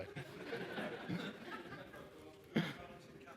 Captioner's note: audience laughs